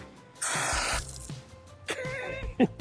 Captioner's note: water hissing; laughs